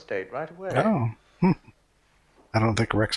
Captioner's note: chuckling